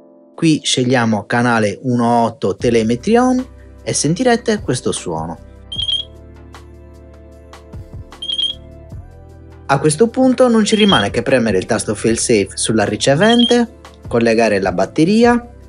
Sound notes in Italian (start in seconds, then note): 5.7 beep; 8.2 beep